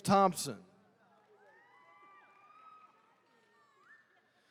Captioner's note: attendees cheering